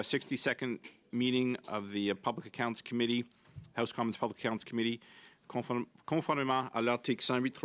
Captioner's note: speaking French